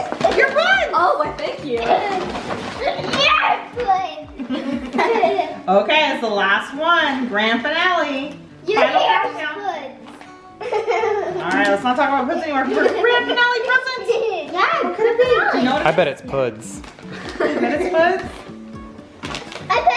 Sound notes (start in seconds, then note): 4.3 family chuckles; 19.6 kids chuckling